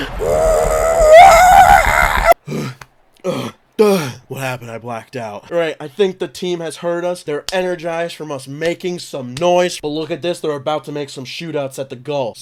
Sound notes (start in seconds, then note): 2.4 gasping for air